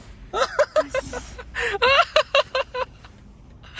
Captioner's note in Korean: 비웃음